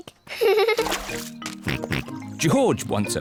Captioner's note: squeaks; giggles; snorts